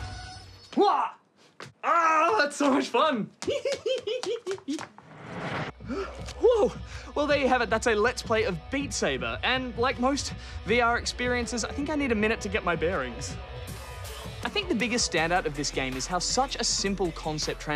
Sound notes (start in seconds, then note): 0.2 music stops; 3.4 giggles happily